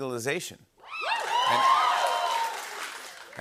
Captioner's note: cheers and applause